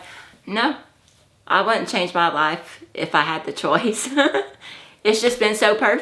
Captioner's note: laughs